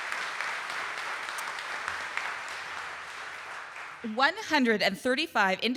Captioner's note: audience applauding